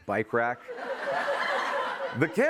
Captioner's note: laughter